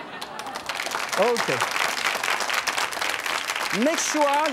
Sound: audience claps

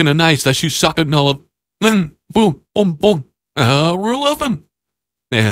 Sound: none

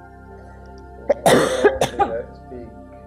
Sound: client coughing

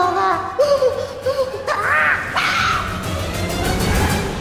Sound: shouts; dramatic music playing

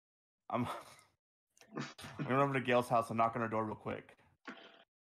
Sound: chuckling

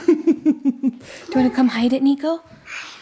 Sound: laughing

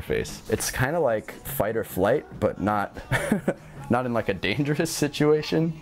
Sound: laughter

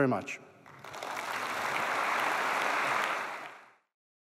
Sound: applause

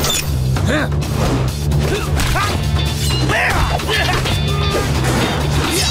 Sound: grunting

